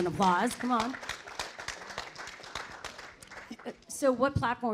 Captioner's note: audience applause